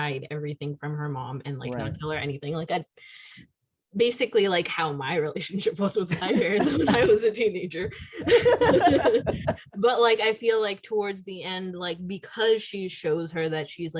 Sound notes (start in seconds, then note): 7.8 laughter